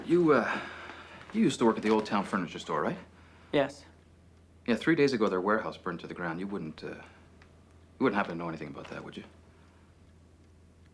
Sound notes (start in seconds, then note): none